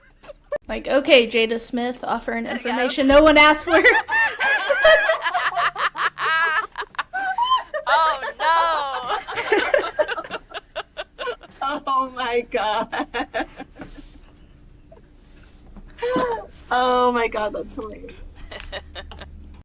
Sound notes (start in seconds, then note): 8.0 laughter